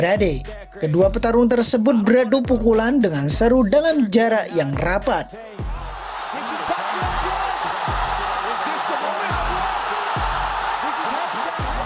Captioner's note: applause